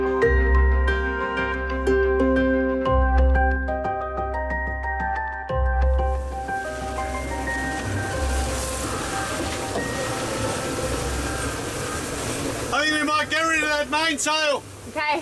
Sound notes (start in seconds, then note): 6.0 water spraying; 6.1 wind howling